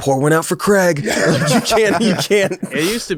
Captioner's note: both laugh